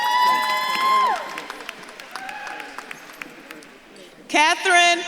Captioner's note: audience claps and cheers